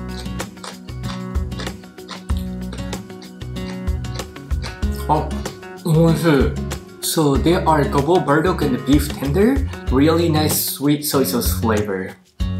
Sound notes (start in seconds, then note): 0.0 crunching